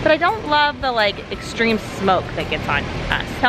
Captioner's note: none